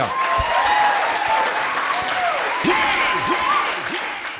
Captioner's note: audience applauding; upbeat music